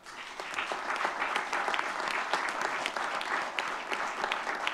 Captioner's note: audience clapping